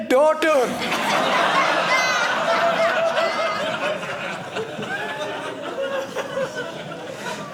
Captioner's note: audience laughing